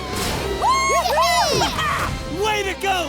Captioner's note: cheering